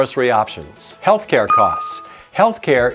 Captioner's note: bell dings